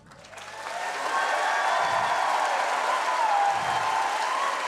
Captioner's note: audience cheering